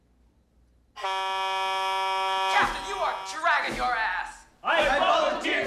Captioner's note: blaring